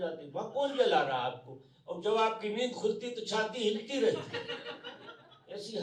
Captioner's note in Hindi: हंसी